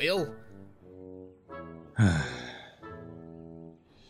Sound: duck sighs

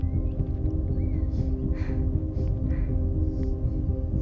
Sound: heavy breathing

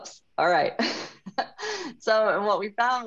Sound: laughs

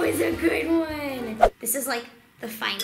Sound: swish

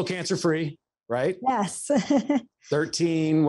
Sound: laughs

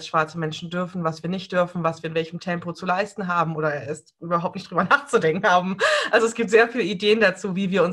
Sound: laughs

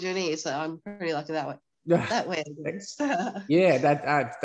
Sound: chuckles

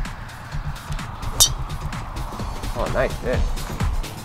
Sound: golf ball impact sound

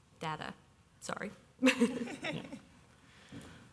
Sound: chuckles

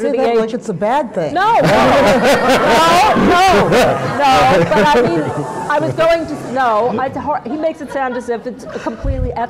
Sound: laughter

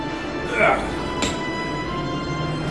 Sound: moaning; grunt

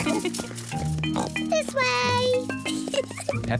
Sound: all laugh; oinks; giggles

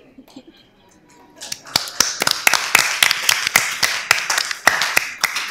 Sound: applause

